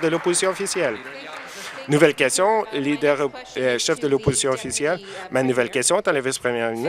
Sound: applause

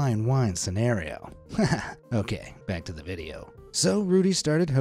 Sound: laughs

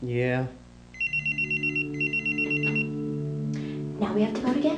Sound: beeper rings

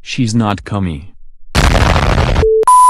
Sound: explosion

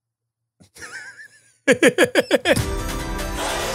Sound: laughs; bright upbeat music

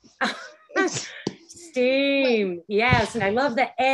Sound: chuckling; laughs

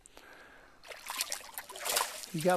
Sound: splashing

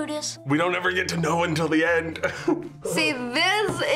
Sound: laughs

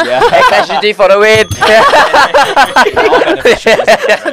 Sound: ring ring

